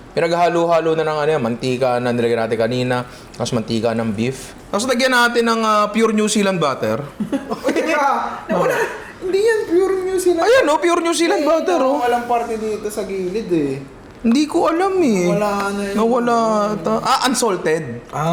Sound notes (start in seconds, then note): 7.1 laughs